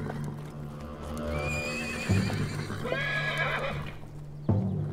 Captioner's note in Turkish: At kişniyor